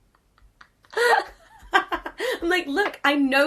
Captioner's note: laughs